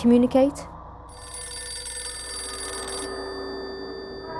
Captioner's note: phone rings